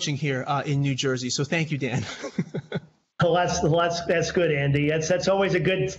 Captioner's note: laughter